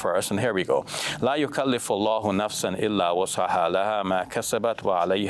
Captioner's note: speaks Arabic